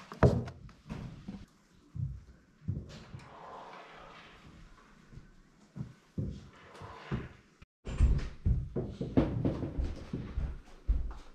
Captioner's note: footsteps